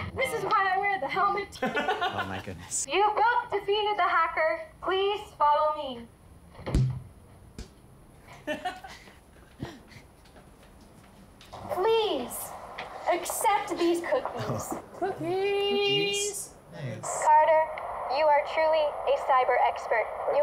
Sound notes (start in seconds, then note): 1.6 laughter